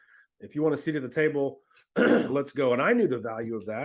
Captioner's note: clears throat